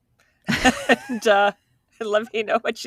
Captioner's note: laughing